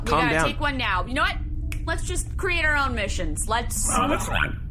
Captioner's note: snaps fingers